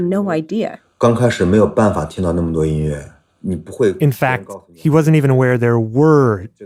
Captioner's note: speaking Mandarin Chinese